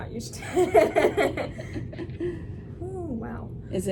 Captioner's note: laughs